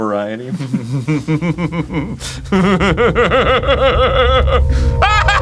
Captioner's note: laugh building in manic intensity